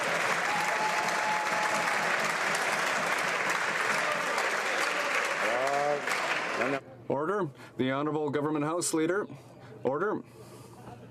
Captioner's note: some Applause